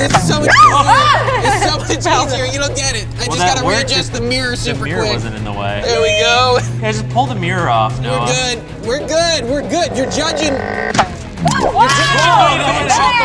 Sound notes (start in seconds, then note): 5.8 shrieks; 11.2 gadget launches